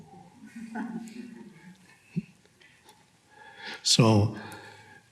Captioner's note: audience laughing